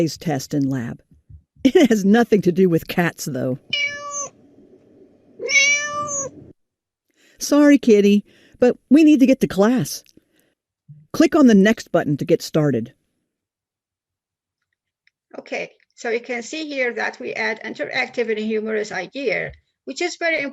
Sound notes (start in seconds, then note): 5.4 cat Meow